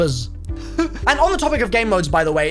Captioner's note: chuckles